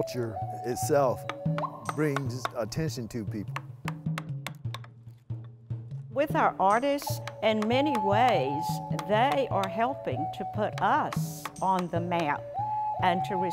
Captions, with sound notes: The culture itself brings attention to people. [hammer tapping] [drum thumping] - With our artists, in many ways, they are helping to put us on the map